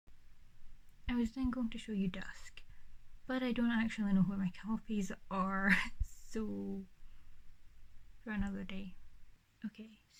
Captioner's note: laughs